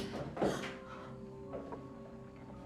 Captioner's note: footsteps approaching; Lucy gasps; tense music; footsteps approaching